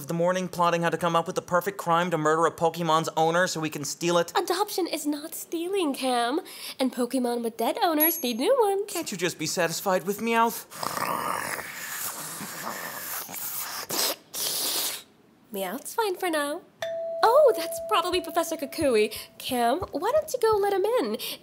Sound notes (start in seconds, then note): 10.7 heavy, guttural breathing